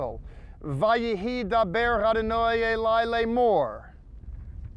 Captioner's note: speaking in Hebrew